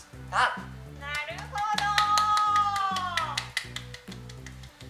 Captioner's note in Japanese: 拍手